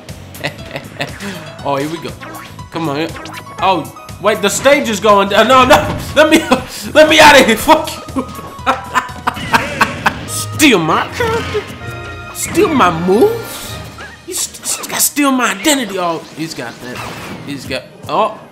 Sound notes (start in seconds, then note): 8.1 laughter